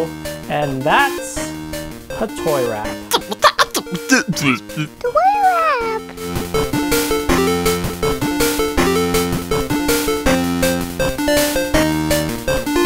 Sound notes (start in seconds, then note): 3.1 beat box sound effect